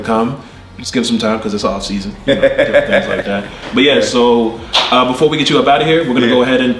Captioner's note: laughs